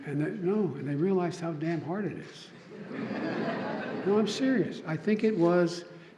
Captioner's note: laughter